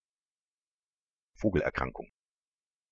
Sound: fast Pronunciation

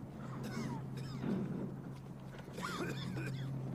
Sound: aircraft passing

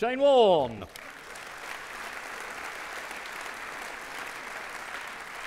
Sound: audience clapping

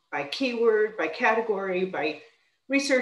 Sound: none

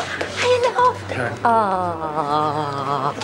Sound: none

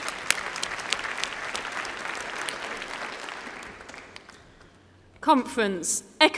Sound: applause

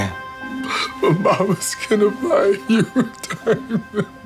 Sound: crying

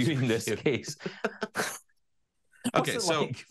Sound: laughing

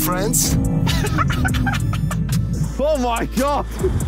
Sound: Tobi laughing

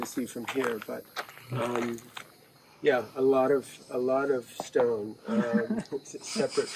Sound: chuckling

